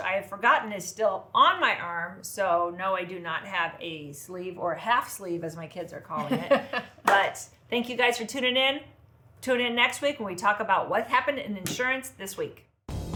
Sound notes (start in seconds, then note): 6.2 laughs